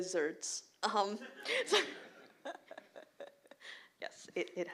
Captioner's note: laughter